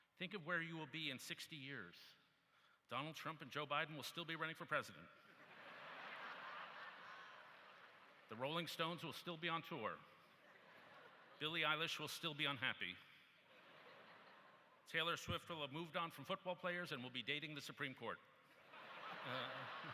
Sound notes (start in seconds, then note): 8.4 laughter